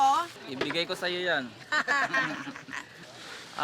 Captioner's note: laughs